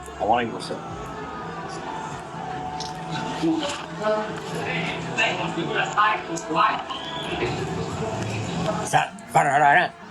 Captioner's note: background club noise